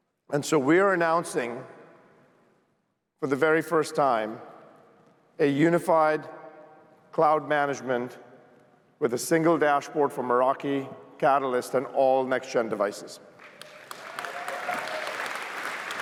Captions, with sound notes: And so we are announcing, for the very first time, a unified cloud management with a single dashboard for Meraki, Catalyst, and all next-Gen devices. [CHEERS, APPLAUSE]